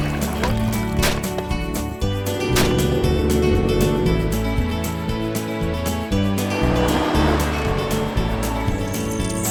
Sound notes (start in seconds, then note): 0.1 gunshots; 6.1 ATV roaring